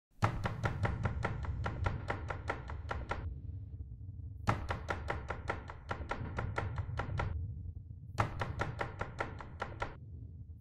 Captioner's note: knocking